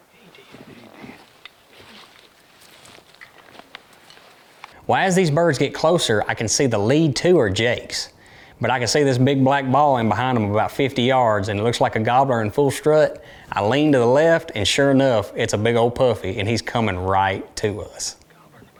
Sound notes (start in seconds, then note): 0.5 hunters whispering; 18.6 hunters whispering